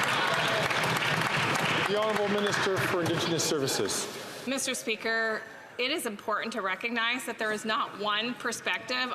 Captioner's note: some Applause